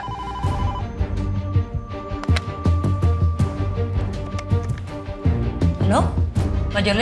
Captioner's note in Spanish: Suena el teléfono